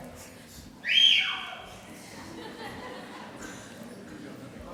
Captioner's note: cheering